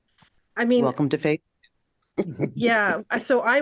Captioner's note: laughter